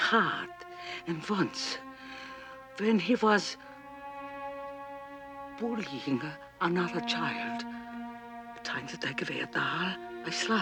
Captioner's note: russian